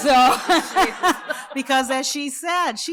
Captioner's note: laughter